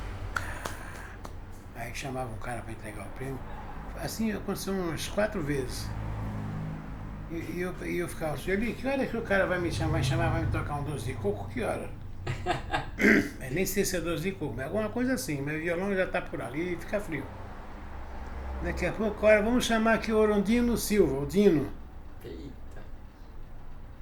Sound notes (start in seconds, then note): 12.2 laughs